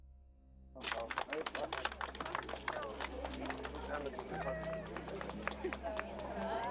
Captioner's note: onlookers and Charles chattering